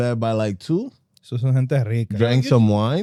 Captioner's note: speaking Spanish